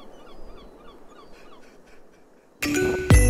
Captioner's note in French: cris de mouette au loin; sanglots